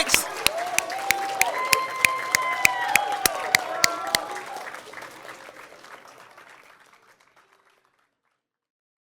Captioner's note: cheering and Applause